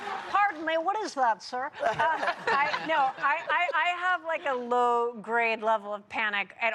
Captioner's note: laughter